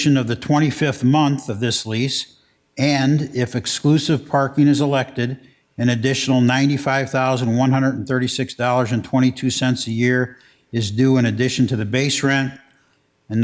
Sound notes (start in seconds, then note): none